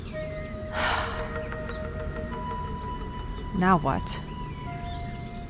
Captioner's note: sigh